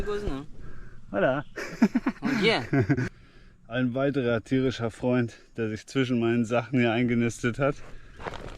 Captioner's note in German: gelächter